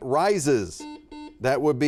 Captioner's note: buzzer beeping